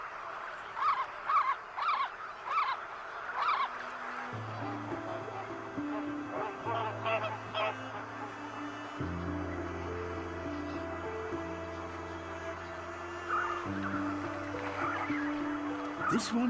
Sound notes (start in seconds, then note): 0.0 croaks; 0.3 chirruping; 6.7 honking; 8.0 soft music